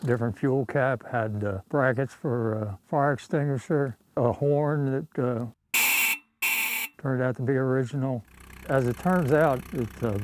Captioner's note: old Horn Sound Effect